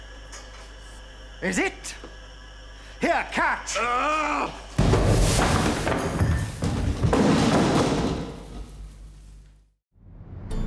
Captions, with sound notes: - IS it? Here, catch! - Aah! (gas explodes) (wood clattering)